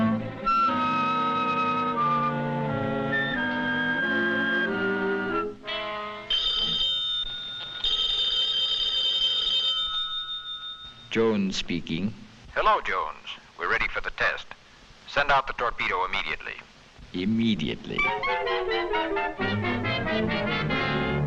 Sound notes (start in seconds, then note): 0.0 suspenseful music; 6.2 phone ringing; 17.9 light dramatic music